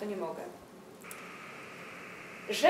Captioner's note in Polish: szum